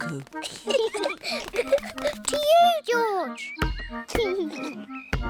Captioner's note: both laugh